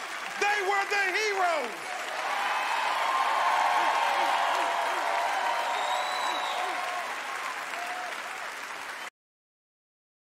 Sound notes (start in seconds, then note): 2.3 cheering; 4.4 wooping